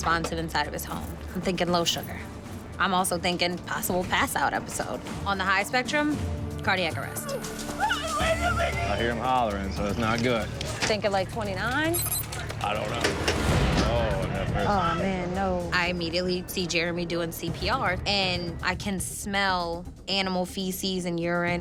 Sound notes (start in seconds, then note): 7.1 crying